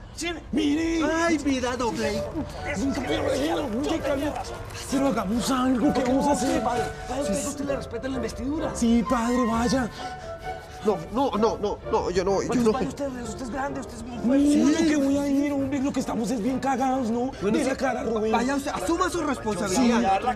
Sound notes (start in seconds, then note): 2.4 indistinct chatter